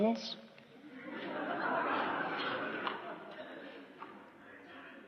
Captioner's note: laughter